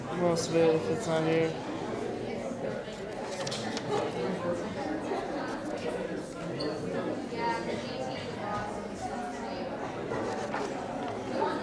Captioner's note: audience chatter